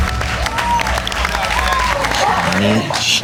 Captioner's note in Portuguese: Aplausos